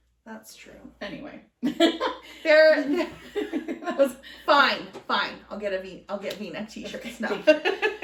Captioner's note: laughter